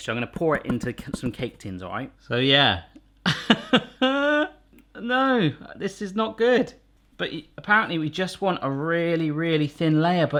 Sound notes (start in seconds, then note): 3.3 laughs